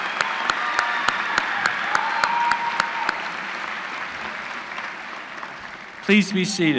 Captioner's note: applause